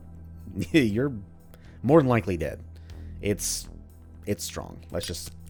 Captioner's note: chuckles